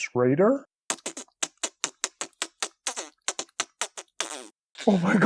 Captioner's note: alien freaking out noises